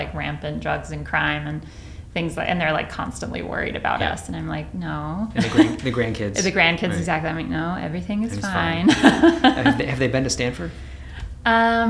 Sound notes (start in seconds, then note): 5.4 chuckles; 8.3 laughs